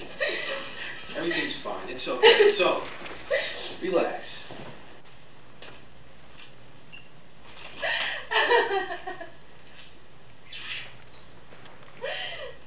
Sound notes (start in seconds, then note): 0.2 Rachel sobs; 7.8 sobbing